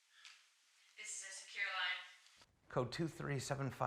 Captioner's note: on phone